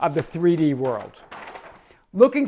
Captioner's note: paper rustling